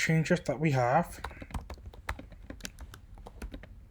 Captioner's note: typing